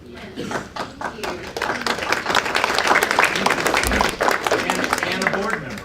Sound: applause

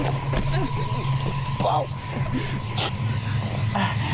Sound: Bo whimpering

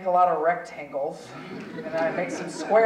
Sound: audience chuckling

